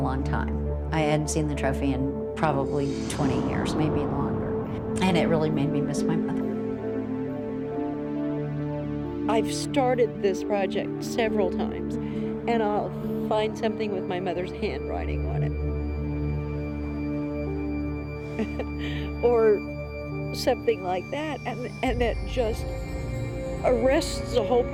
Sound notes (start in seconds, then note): 18.3 chuckles